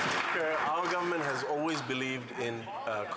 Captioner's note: applause